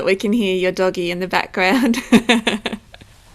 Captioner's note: laughing